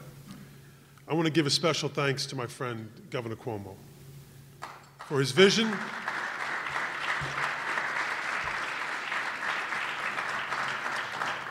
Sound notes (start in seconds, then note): 4.6 applause